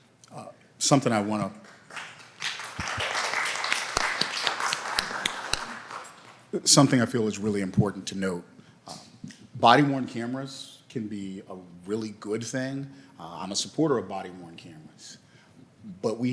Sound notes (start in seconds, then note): 1.5 applause